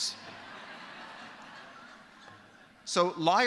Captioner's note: laughter